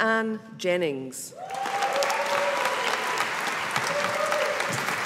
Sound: audience applauding

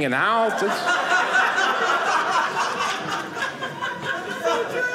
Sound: audience laughing

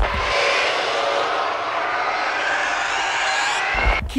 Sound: epic Screaming

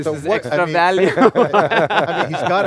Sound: everyone chuckles

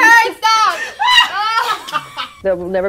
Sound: all laughing

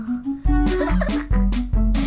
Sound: giggling

